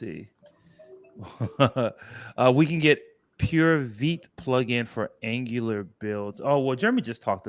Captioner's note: laughs